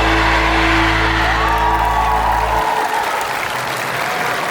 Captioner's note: applause